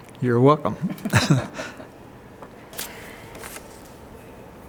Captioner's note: they laugh